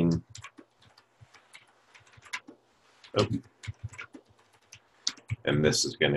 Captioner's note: typing Sounds